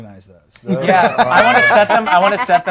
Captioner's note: laughing